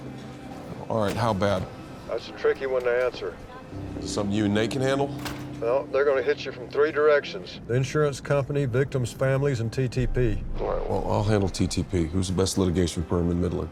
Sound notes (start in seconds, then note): 1.9 on phone